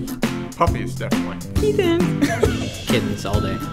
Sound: laughter

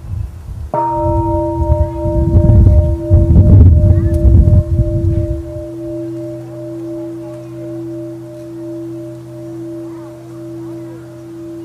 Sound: bell

